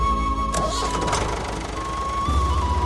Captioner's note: engine Start